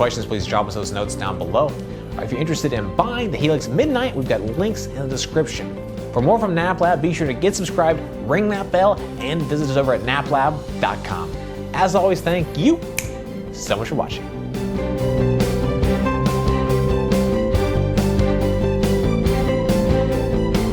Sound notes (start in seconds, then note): 12.9 clicks fingers; 16.9 outro music